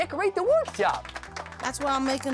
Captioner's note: applause